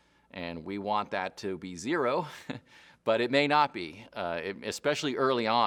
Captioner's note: chuckles